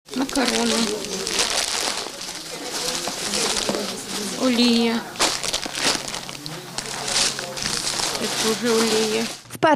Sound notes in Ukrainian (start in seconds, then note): 0.3 голос за кадром